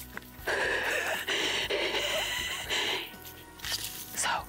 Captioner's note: laughs